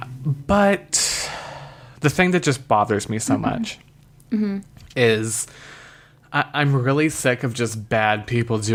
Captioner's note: sighs